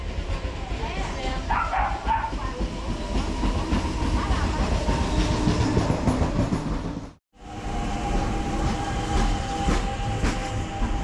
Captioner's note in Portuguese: Barulho de trem chegando